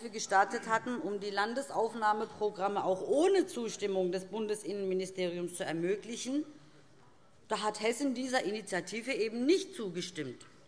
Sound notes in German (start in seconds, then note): none